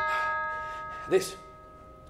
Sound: bell rings

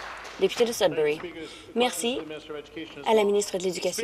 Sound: applause

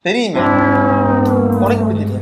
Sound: confused

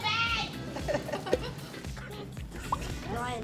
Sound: children laughing

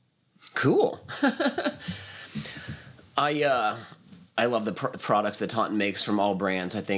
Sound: laughs

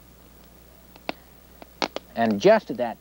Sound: fire crackling

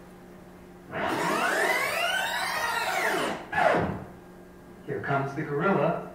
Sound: rewind noise

